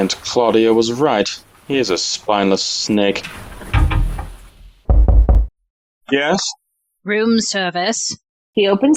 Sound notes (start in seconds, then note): 4.8 another knock; 5.3 CLAUDIA answers in a manly voice